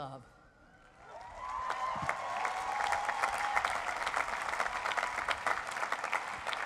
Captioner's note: cheering